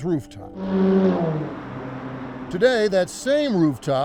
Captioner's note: car zooms